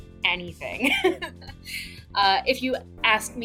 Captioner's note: laughs